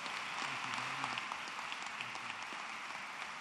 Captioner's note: applause